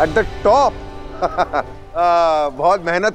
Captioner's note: Giggling